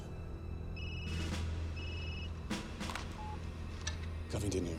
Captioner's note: phone ringing